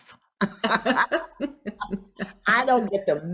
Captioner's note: both laugh